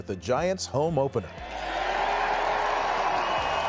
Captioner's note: cheering